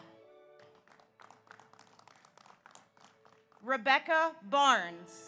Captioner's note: audience applauds